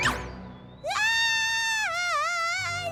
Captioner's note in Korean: 비명